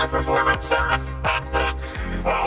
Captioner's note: laughs